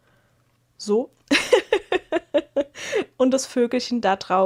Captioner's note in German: gelächter